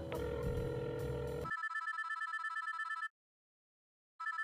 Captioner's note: phone ringing